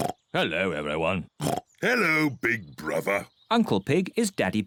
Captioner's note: oinks